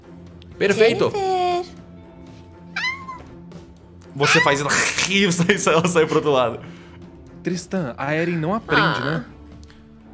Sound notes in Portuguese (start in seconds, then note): 5.2 gato bufando; 8.9 Aah